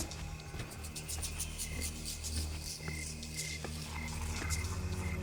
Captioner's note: soft footsteps